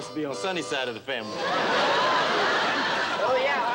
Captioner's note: laughter